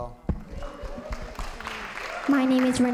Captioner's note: audience applauding